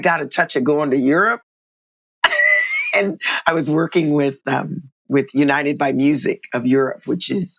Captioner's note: laughter